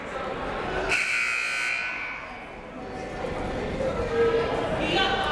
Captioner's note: buzzer blares